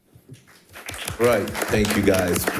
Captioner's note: audience applauding